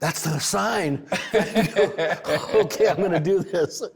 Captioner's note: both laugh